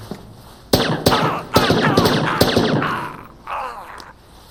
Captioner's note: silenced gunshots, grunting